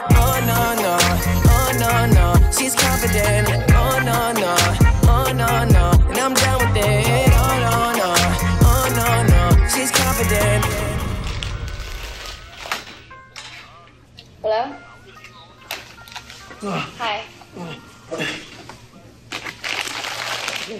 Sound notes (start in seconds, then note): 16.6 cashier grunting